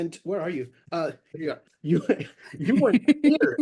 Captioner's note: laughs